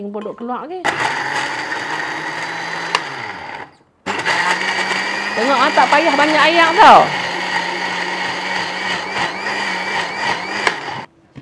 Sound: sound of blender

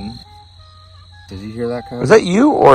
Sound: coyotes howling

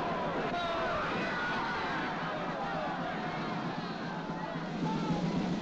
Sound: thunder claps; mob clamoring; drum roll; mob clamoring

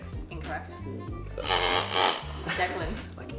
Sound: squeaks

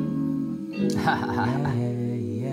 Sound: laugh

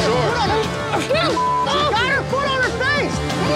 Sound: beep

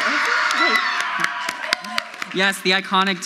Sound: crowd screams; audience applauds

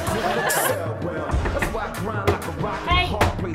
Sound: knocking

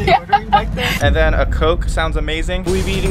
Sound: laughs

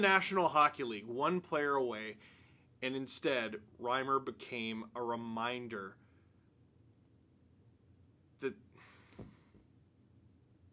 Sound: long pause

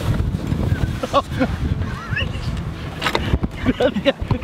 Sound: man laughing

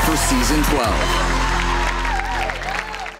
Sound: cheering

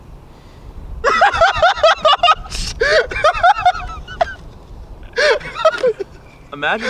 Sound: laughing

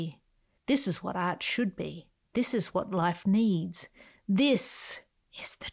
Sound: whispers

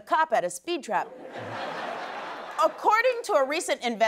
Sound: laughter

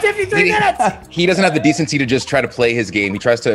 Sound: laugh

